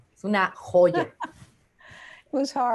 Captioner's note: laughs